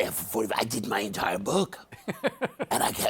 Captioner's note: laughs